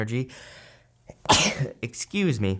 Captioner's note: sneezes